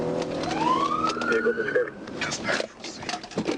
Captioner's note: sirens